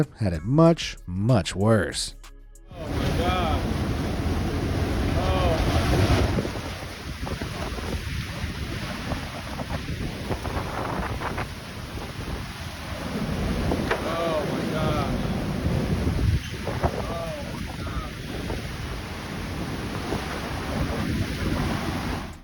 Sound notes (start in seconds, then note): 7.5 wind whooshing; 12.9 wind roaring; 19.6 wind roaring